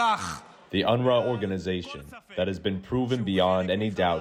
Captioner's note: through translator